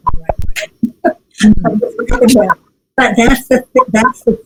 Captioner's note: laughs